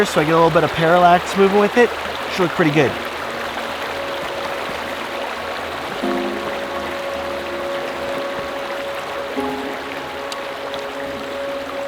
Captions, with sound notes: so I get a little bit of parallax movement with it. Should look pretty good. (stream flowing) (peaceful ambient music)